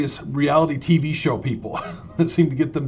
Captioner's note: laughs loudly